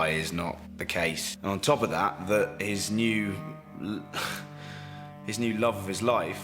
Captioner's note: sighs